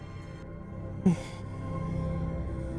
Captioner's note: tiny emotional whimper